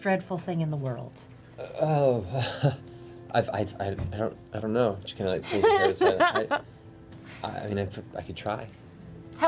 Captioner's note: nervous laugh